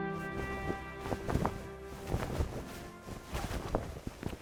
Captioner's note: flag flapping